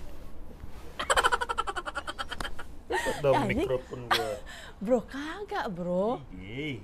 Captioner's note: laughs